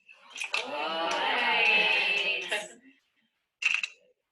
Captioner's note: excited chatter